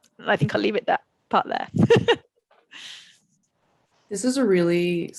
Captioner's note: laughs